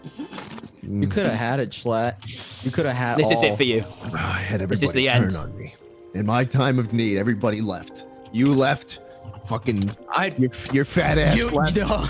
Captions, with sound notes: Q- You could it have it, Jschlatt. You could it have all. TI- This is it for you. JS- (drinking noises) I had everyone turn on me. TI- This is the end. JS- In my time of need everybody left. You lefted. Fucking... Your fat ass left. Q- No